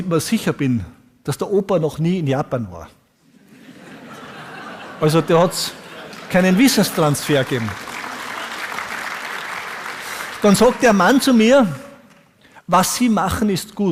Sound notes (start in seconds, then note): 3.4 audience laughs; 5.9 applause